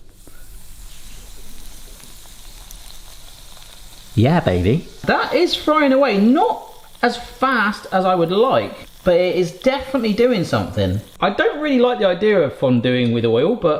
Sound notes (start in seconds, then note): 1.0 bread sizzling